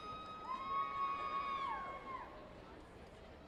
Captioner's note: cheering